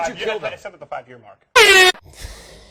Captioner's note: airhorn; broken laughter